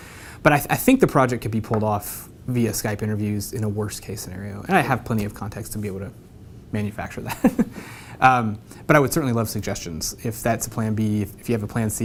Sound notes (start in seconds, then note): 7.4 laugh